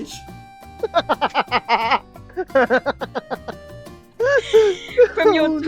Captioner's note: laughter